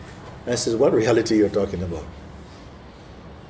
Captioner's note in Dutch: none